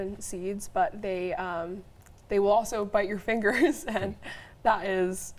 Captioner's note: chuckles